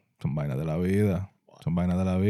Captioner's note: speaking In Foreign Language